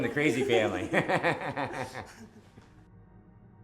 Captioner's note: both Laugh